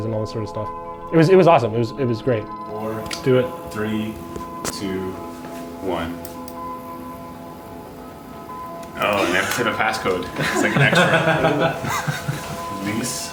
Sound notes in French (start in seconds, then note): 6.2 clics; 11.5 en riant